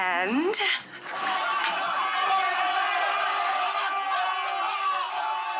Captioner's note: screaming